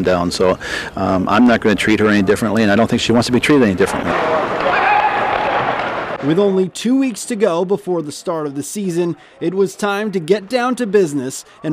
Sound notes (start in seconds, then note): 4.6 distant yelling